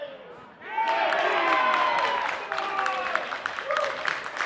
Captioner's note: crowd cheers; clapping